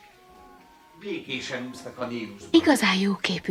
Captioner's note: none